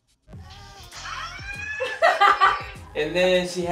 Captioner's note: laughing